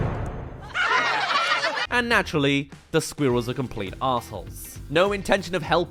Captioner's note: laughs